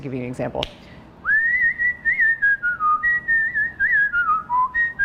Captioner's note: whistles a tune